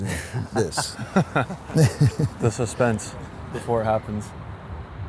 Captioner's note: laughs